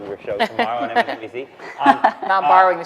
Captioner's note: laughing